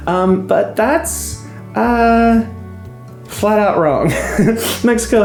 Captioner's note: laughing